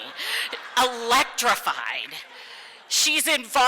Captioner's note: crowd laughs